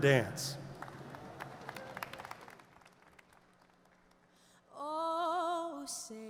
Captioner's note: audience applauds